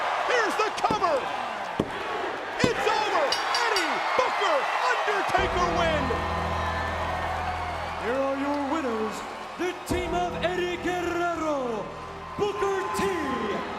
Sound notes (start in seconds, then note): 3.3 bell rings; 5.4 bells tolling